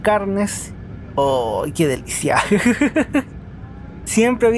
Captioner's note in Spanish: risas